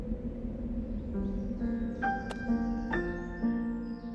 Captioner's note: wind blows; piano music plays